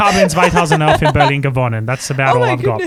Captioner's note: speaks in foreign language